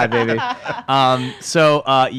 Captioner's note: laughs